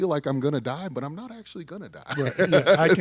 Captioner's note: laughs